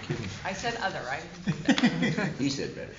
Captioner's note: laughter